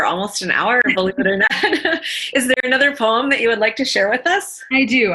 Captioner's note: laughter